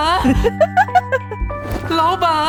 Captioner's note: giggles